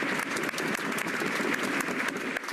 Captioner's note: cheers and applause